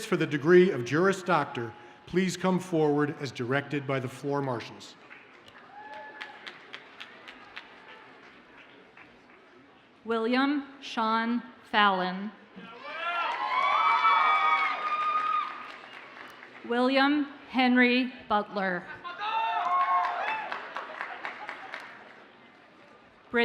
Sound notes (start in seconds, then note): 5.4 audience cheers and applauds faintly; 12.8 audience cheers and applauds; 19.2 audience cheers and applauds